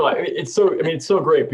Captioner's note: laughter